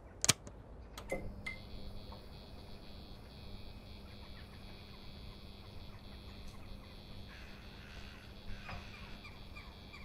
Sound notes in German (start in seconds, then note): 0.9 Klicken; 1.0 Flimmergeräusch